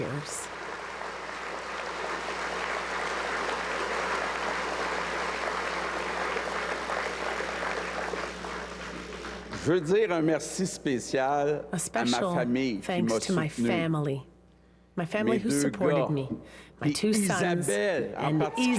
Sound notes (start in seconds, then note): 4.0 cheers and applause